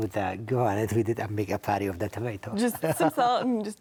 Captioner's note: chuckles